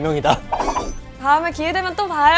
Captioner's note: hurriedly